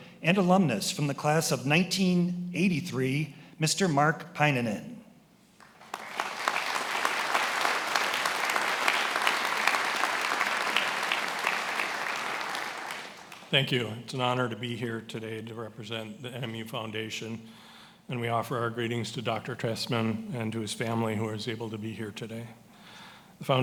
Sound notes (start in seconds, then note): 5.6 attendees applauding